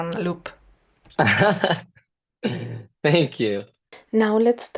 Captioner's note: laughter